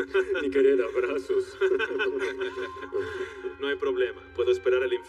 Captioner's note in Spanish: Hombres ríen